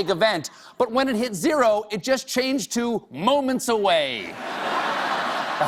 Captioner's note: laughter